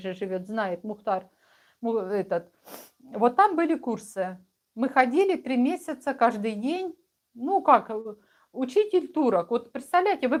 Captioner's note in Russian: фыркает